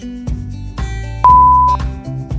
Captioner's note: beep